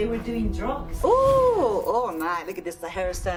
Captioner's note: woman yelling